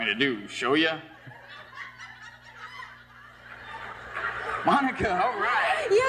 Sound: audience laughs

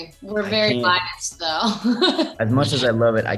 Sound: Nina laughs

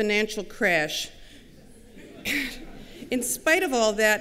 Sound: laughter

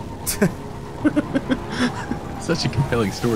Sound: voiceover; giggles

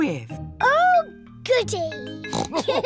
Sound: oinks; all laugh

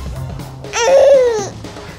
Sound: baby cries

